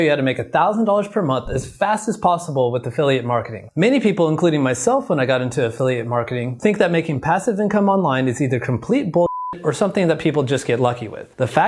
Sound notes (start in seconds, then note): 9.2 beeping